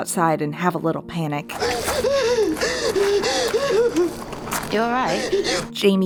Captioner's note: Dani hyperventilating